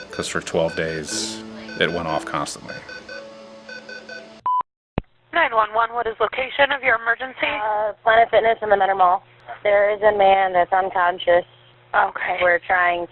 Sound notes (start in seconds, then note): 3.2 beeping